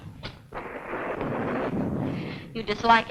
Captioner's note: thunder rumbling